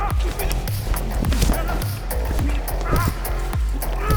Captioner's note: intense scuffling; cloth ruffling